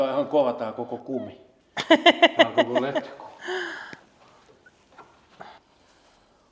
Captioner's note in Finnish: naurua